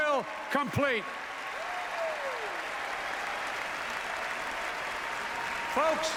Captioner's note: applause